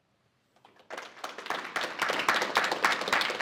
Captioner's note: applause